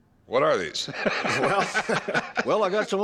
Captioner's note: laughs